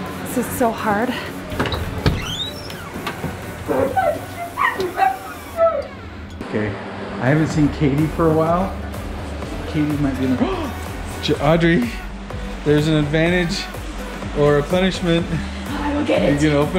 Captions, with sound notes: This is so hard. (screeching) - Okay, I haven't seen Katie for a while, Katie might be in the-- (gasps) Audrey, there's an advantage or a punishment. - I will get it.